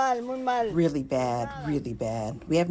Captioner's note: through translator